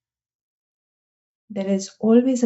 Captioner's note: silence